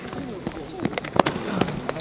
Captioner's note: rushing steps